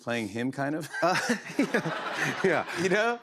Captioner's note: laughter